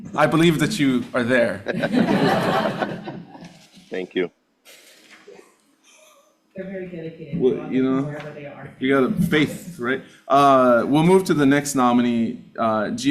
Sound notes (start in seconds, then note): 1.5 audience laughing